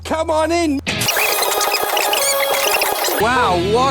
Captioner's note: fast forward sounds